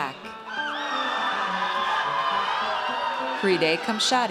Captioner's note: audience cheers